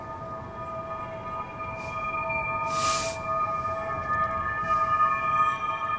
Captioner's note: high frequency humming